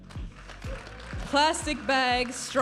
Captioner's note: audience applauding and cheering